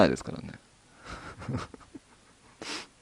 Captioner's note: laughs